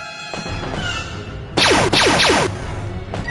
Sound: blaster fire

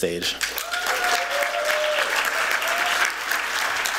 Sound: applause

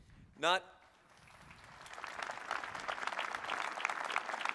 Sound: applause

